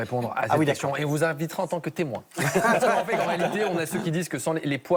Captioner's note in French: rires